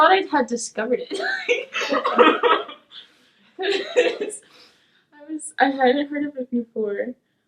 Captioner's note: laughing